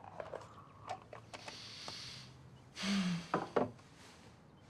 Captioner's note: sighs